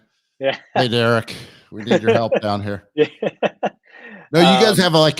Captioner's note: laughs